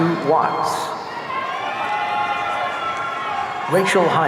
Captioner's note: audience cheering